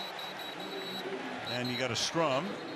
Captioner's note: whistle